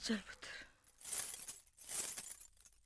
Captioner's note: anklet Jingle